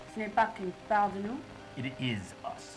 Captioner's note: translator speaking in French